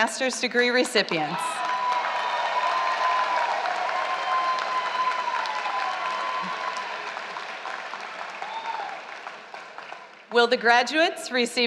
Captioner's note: applause